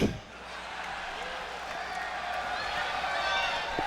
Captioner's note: audience laughs